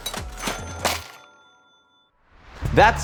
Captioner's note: cash register rings